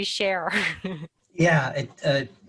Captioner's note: laughs